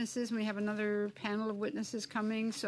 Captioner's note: speaking French